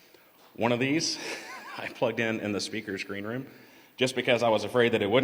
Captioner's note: laughter